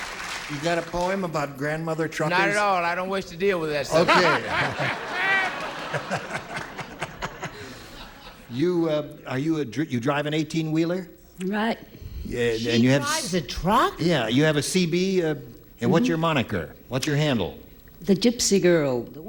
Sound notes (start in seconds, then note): 0.0 applause; 8.5 laughter